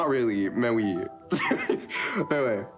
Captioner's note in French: rire